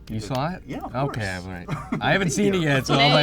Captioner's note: laughs